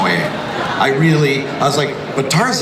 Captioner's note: crowd laughs